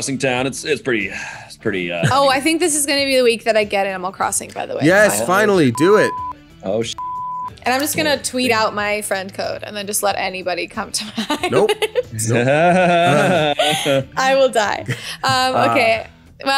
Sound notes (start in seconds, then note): 11.0 laughs; 11.0 laughter